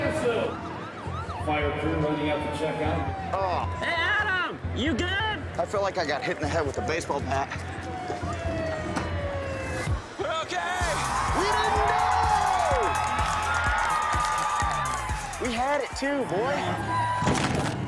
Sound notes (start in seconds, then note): 10.4 cheers and applause